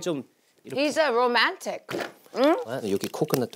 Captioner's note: biting